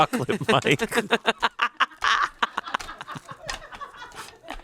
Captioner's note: all laugh